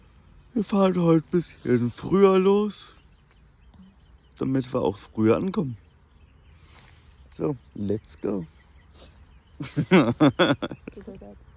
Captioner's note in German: gelächter